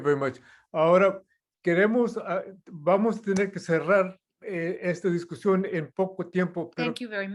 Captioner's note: non-english speech